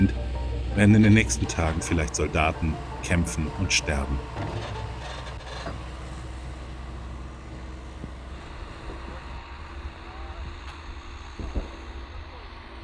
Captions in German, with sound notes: werden in den nächsten Tagen viel- leicht Soldaten kämpfen und sterben. (Motorgeräusche)